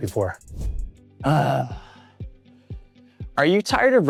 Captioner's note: speaker grunts